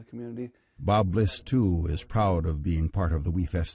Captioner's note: voiceover